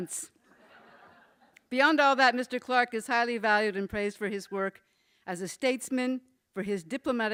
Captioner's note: laughter